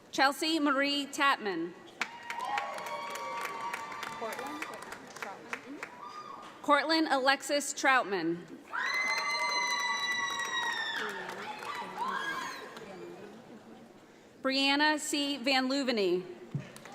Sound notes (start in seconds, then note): 2.0 audience applauds; 8.8 audience applauds